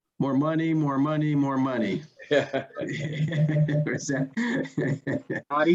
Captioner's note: all laughing